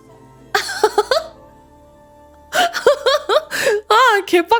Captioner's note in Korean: 웃음